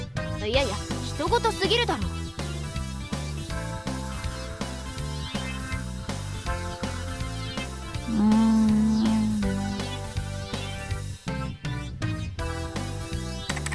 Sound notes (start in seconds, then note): 8.0 sigh